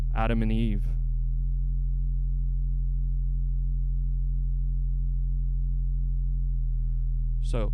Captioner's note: low hum continues